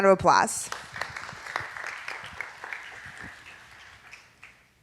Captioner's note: audience applauding